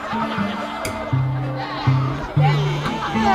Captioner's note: laughter / applause